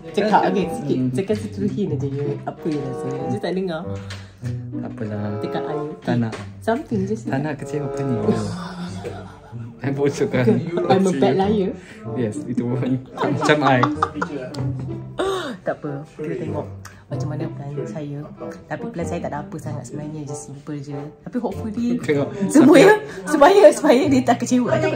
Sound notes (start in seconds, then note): 8.4 laugh; 13.0 laugh